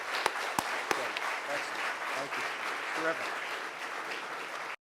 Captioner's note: audience clapping